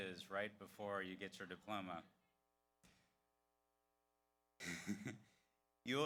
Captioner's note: laughs